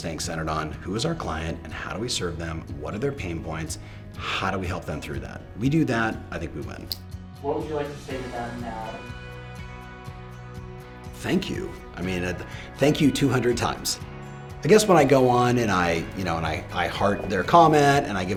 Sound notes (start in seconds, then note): none